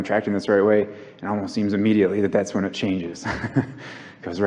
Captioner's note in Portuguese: o convidado ri